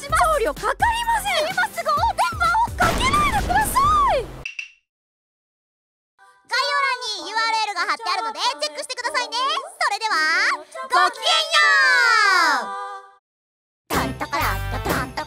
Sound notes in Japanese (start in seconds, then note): 2.8 効果音